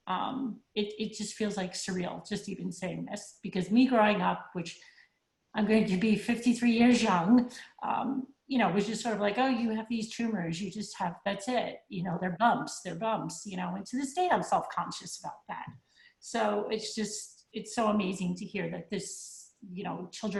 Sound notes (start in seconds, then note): none